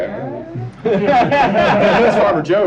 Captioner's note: laughter